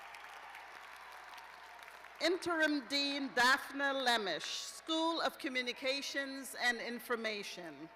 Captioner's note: cheers and applause